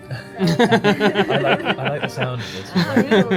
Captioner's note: laughs